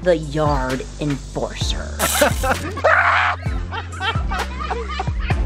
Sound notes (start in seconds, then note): 2.0 laughter; 2.8 screams